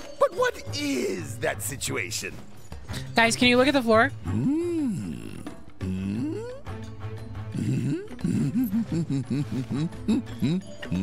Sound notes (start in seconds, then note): 4.3 Don Corneo “Hmm”-ing